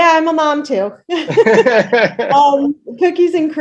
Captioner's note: both laughs